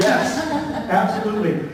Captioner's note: audience member laughs